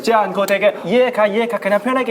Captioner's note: Korean